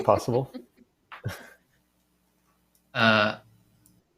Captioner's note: laughter